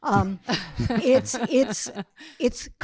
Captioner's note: audience laughing